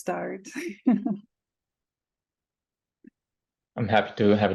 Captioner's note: chuckles